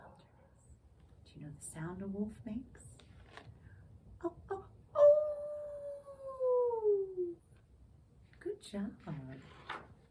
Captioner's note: imitates a wolf howl